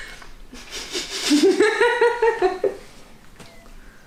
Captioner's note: fails to contain laughter